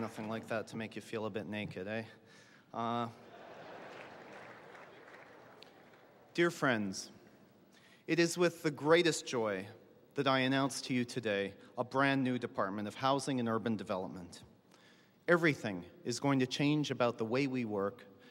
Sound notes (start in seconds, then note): 3.1 laughter